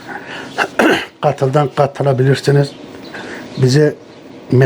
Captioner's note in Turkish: boğazını temizler